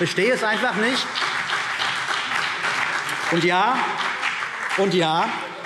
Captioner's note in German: Beifall CDU und BÜNDNIS 90/DIE GRÜNEN